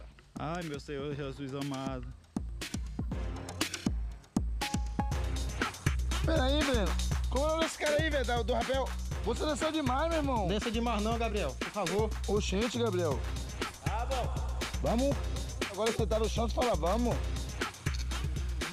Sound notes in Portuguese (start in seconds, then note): 13.8 ecoando